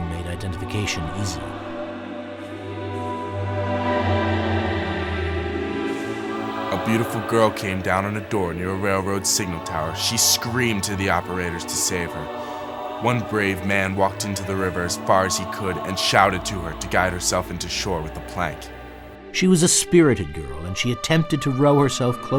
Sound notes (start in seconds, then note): 14.8 voiceover